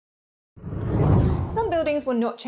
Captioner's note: air whooshes